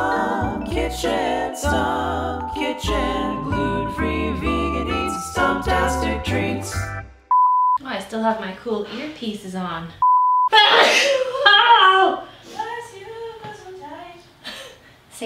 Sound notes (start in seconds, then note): 7.2 beeps; 10.0 beeps; 10.6 sneezes